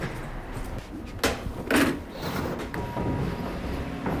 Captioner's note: door opening